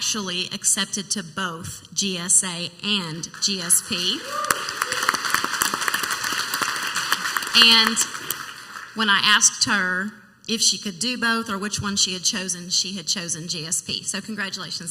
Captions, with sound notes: she was actually accepted to both GSA and GSP. (clapping and cheering) And when I asked her if she could do both or which one she had chosen, she had chosen GSP.